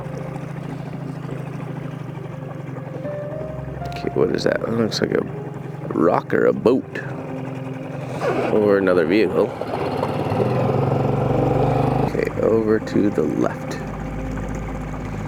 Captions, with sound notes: (boat motor hums) (somber music) Okay, what is that? That looks like a rock or a boat, or another vehicle. (boat motor rumbles) Okay, over to the left.